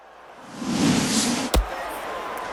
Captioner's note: cheering